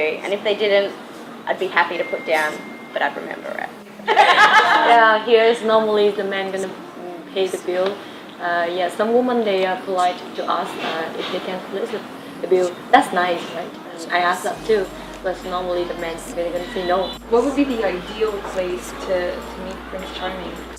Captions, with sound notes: And if they didn’t, I’d be happy to put down...but I’d remember it. (laughs) Yea here normally the man is going to pay the bill. Some women are polite to ask if they can split the bill. That’s nice right? And I ask that too. But normally the man is going to say no. What would be the ideal place to meet prince charming?